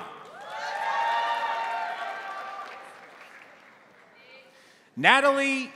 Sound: crowd applauding; crowd cheering

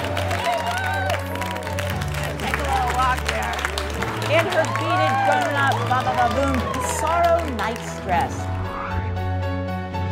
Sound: cheers and applause

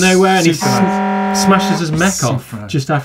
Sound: horn honking

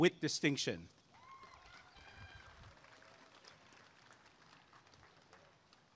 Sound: applause and cheering

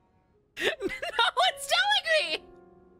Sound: exasperated

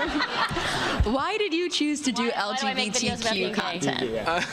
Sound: laughter

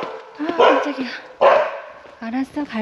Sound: the dog guarding the temple barks

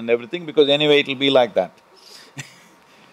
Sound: few laugh

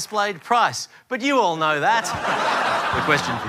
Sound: laughter

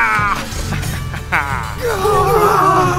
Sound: Joe growls again and begins to laugh; even more screaming

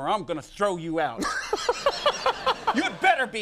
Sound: audience laughing

